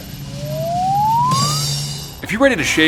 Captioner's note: slide whistle sound